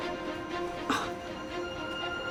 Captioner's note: gasps